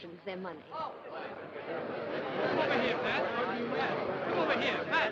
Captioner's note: crowd noise